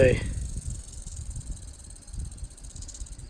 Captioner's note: rattling continues